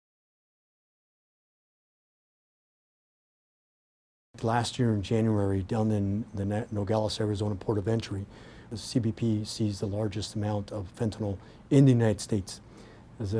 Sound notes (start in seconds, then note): none